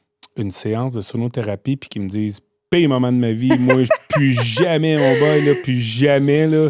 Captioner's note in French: rires